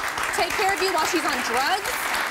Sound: audience claps

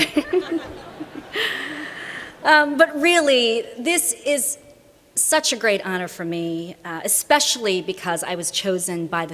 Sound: laughter

